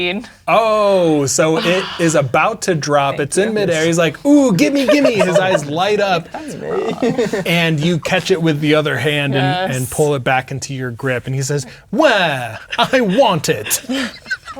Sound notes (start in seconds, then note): 6.3 players talking and laughing